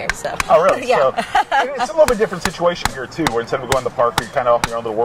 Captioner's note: laughing